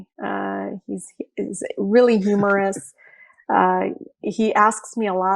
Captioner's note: Andy laughing